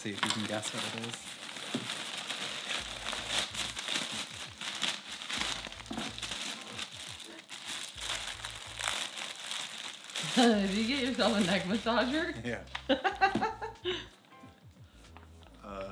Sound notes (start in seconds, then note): 2.7 plastic rustling; 13.5 laughing